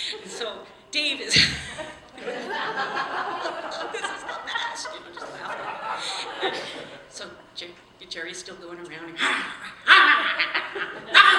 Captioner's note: laughing; growling sounds